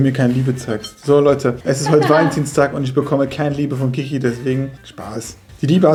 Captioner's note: laughing